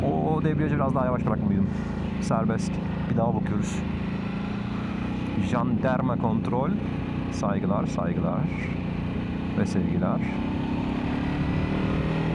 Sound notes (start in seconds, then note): 3.6 Motor geçiş sesi